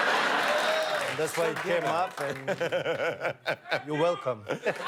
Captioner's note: laughter